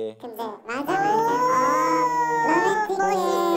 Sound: that romantic remark makes them murmur

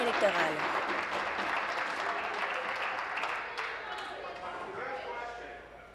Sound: applause

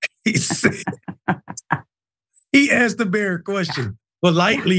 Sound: laugh

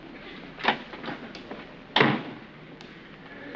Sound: door opens and closes

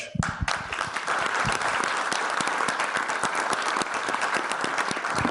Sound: trustees and audience applaud

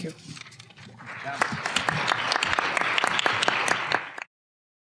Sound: applause

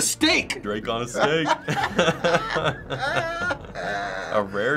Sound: laughing

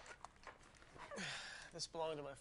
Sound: grunts

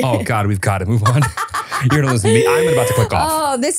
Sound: laughing

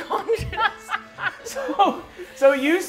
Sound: players laughing

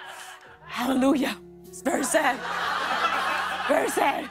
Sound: laughter

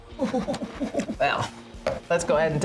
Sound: whimpers

